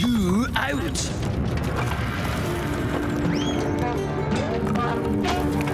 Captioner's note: building rumbling and crumbling